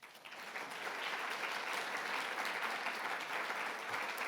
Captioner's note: audience applauding